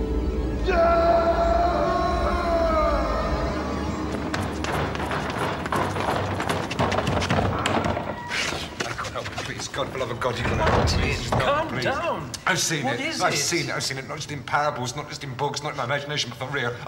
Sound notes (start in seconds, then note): 0.1 Martin wailing loudly; 4.1 Martin knocking; 7.2 door clicking